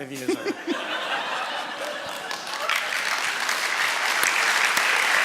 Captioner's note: laughter and applause from audience